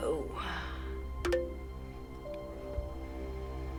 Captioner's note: computer chimes